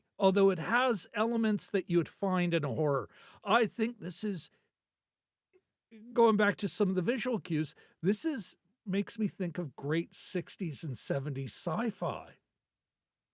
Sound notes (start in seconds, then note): none